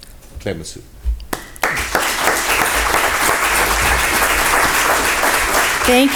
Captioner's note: applause